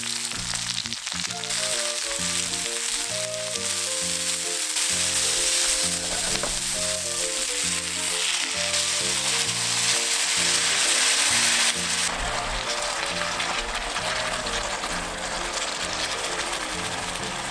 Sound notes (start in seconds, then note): 12.1 boiling sound